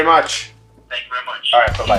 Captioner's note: on phone